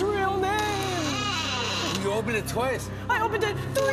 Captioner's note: door creaking